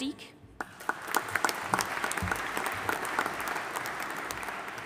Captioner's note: audience applauding